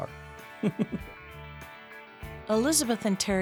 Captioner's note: laughter